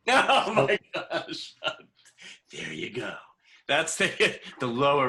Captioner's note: laughter